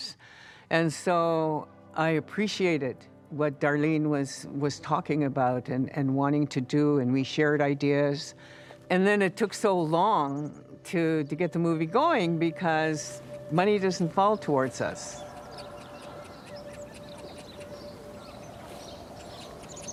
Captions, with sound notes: And so I appreciated what Darlene was talking about and wanting to do. And we shared ideas. And then it took so long to get the movie going, because money doesn't fall towards us. (critters chittering)